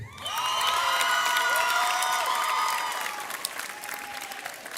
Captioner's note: audience cheers